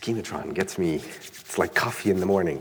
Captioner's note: rubs hands together